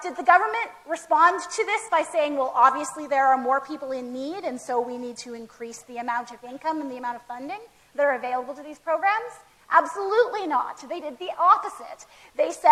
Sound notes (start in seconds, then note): none